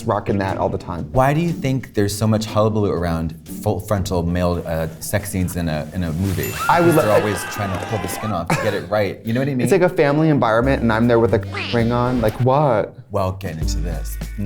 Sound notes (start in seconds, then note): 6.4 crowd screaming